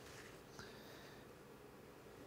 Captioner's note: audible breathing